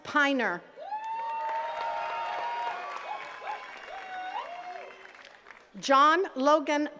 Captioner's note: attendees cheering and clapping